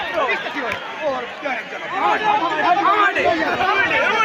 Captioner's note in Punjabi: ਤਾੜੀਆਂ